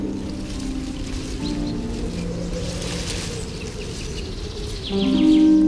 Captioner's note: rustling leaves; soft music continues; wind blowing; soft music continues